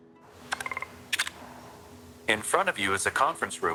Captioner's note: chiming